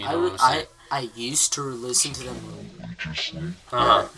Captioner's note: Mickey mouse screams